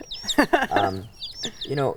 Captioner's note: laughing